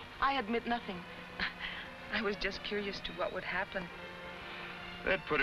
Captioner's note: chuckles